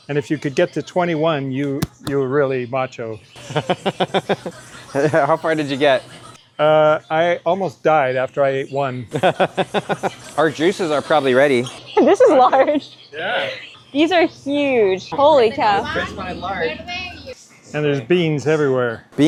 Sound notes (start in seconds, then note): 3.5 laughing; 9.2 laughing